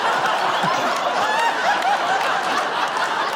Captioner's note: laughs; laughter